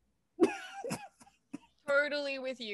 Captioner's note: laughs